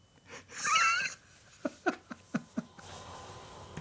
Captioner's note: laughing